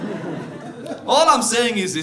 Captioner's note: audience laughing